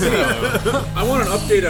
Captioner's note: laughter